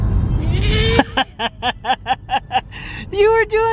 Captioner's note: laughing